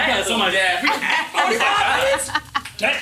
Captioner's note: group chattering; laughing